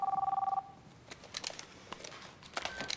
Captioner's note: phone ringing